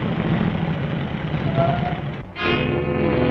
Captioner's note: tires squealing; dramatic music